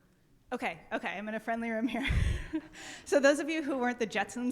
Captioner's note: chuckles